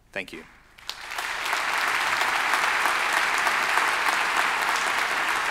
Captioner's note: everyone applauding